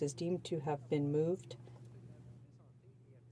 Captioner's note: speaking French